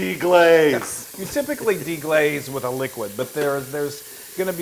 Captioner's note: laugh